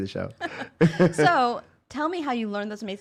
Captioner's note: laughing